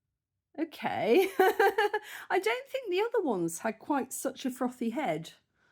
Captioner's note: laughing